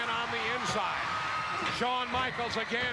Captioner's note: audience cheering